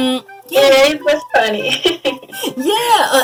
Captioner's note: giggles